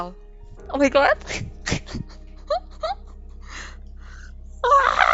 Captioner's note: she is cryingggg